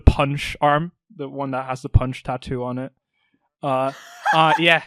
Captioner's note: Alyssa laughs